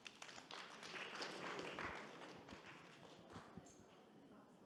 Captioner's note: audience clapping